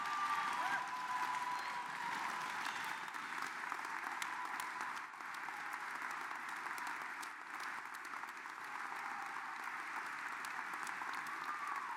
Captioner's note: applause